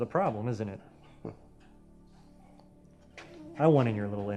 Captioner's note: laughs